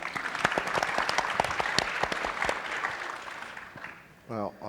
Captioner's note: audience and panelists applauding